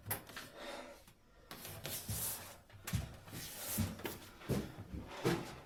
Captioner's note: heavy breathing